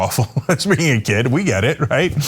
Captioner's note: laugh